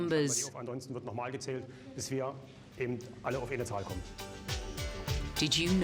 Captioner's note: speaking foreign language